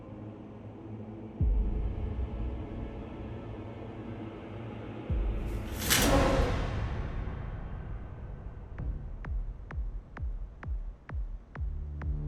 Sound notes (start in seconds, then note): 5.6 shower curtain whooshing; 8.9 sensual beat music